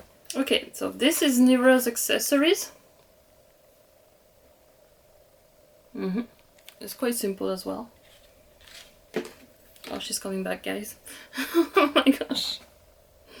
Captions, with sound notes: Okay so this is Nevra's accessories. It's quite simple as well. Oh she's coming back guys *LAUGHING* Oh my Gosh.